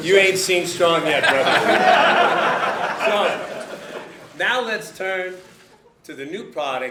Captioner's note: laughter